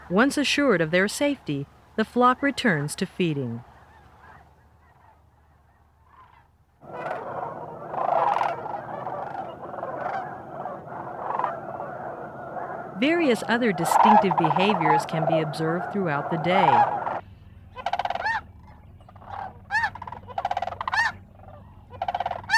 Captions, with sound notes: Once assured of their safety, the flock returns to feeding. (birds squawking) Various other distinctive behaviors can be observed throughout the day. (birds squawking)